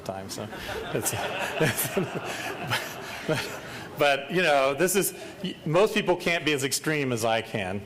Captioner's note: laughter